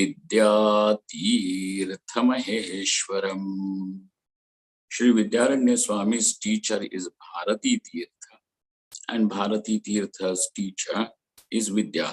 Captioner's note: sanskrit